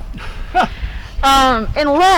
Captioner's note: laughs